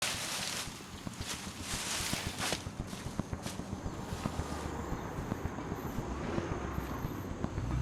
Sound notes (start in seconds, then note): 0.0 brush rustling